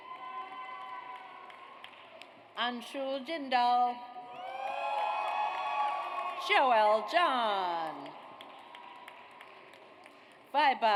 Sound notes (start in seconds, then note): 0.0 audience cheers; 4.4 audience cheers; 7.7 audience applauds